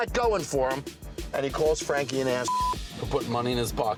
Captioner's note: beep